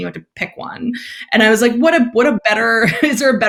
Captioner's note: laughs